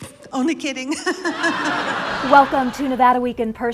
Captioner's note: laughter